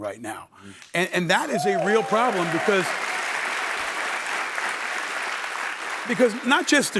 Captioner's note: cheering